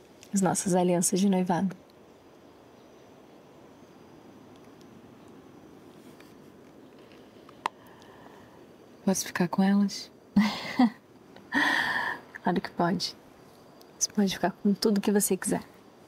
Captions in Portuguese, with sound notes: As nossas alianças de noivado. Posso ficar com elas? (RISOS) Claro que pode. Você pode ficar com tudo que você quiser.